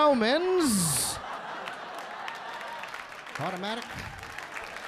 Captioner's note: audience laughing; audience clapping